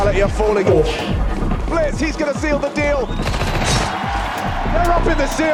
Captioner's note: crowd cheering